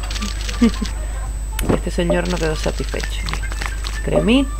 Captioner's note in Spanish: risas